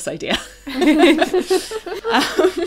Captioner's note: laughs